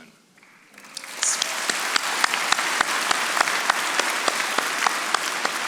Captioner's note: audience applauding